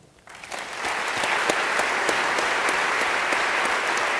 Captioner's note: audience applauding